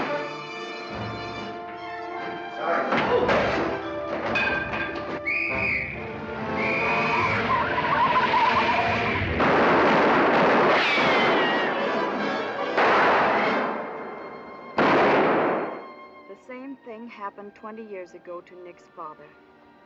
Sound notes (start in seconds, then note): 6.3 tyres screech; 6.4 police whistle blows; 9.0 gunshots; 12.4 gunshot